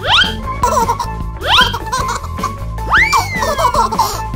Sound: baby laughing

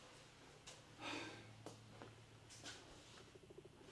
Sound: Jon sighs

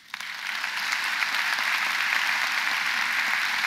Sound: audience applauds

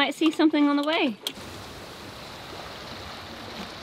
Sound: wave sounds

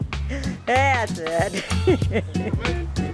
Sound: laughing

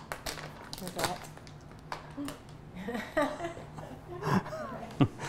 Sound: laughter

